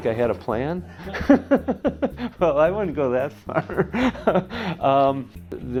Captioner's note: laughs